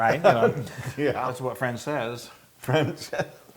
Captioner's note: laugh